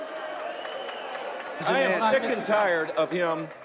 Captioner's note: cheering